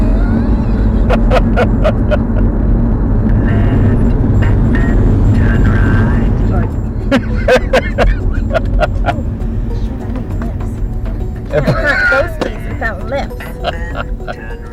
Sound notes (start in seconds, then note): 0.0 speaking faintly; 3.4 laughs; 7.0 man laughing; 7.7 phone ringing; 13.0 man laughing